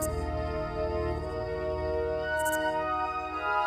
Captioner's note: crickets chirping